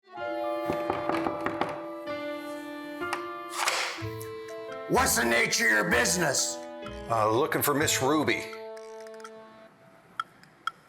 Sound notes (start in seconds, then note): 0.7 gentle music; 0.7 guest knocking